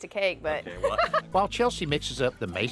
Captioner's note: laughs